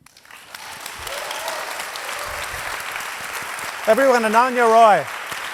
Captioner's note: audience applauding